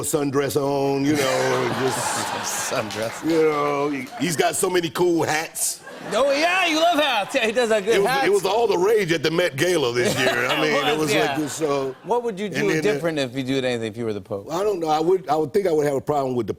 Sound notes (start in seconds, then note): 1.1 laughter; 10.0 laughter